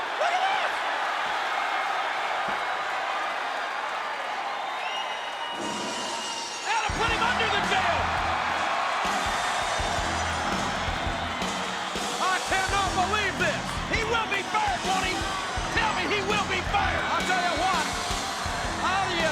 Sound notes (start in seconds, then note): 1.0 crowd cheering; 8.2 crowd cheering; 8.2 hard rock music